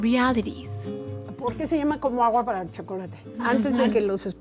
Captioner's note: speaking Spanish